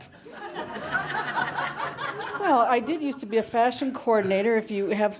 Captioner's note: laughter